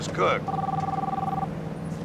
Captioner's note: phone ringing